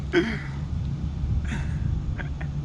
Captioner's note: continues laughing